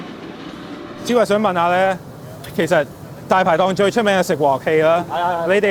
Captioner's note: both speaking in foreign language